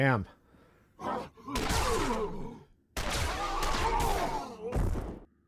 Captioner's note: gunshots